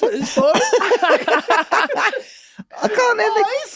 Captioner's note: Glenn and Charlie laughing